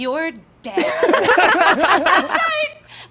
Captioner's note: group laughter